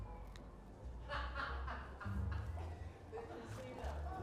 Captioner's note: laughing